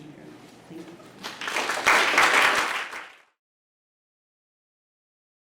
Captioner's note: applause